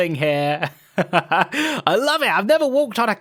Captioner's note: laughs